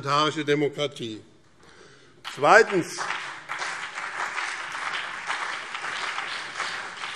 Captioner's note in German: Beifall BÜNDNIS 90/DIE GRÜNEN und vereinzelt CDU